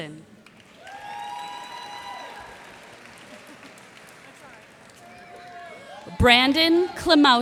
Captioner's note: cheers and applause